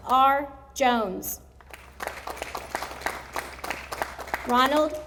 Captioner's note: audience applauding